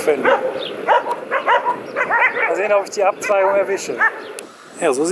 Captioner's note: dogs barking in the background